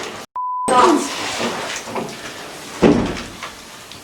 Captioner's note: beep